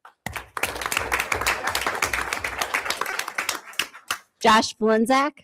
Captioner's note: everyone applauds